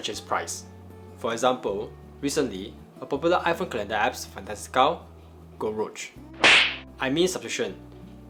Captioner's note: slap